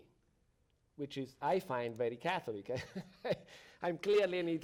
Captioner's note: chuckles